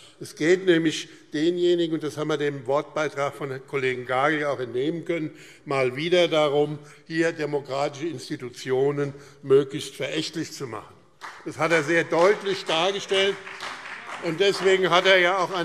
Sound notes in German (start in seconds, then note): 11.2 Beifall BÜNDNIS 90/DIE GRÜNEN und vereinzelt CDU